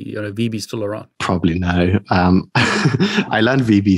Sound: laughing

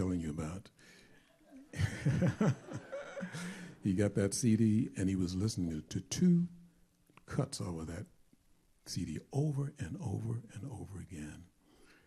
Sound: chuckling

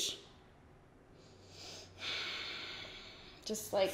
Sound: inhales deeply

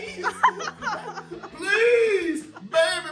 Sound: laughter

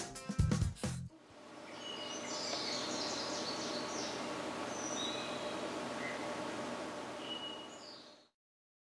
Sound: birds chirping

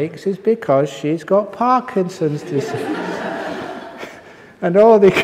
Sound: laughter

